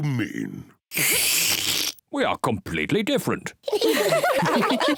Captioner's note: slurps; all giggle